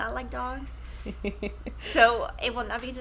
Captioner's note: chuckles